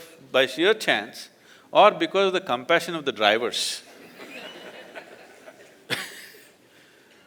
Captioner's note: laughter